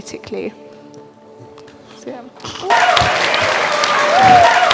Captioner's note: cheering and applause